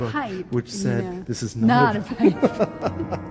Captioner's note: jazzy music; laughs